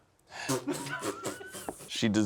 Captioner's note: group laughs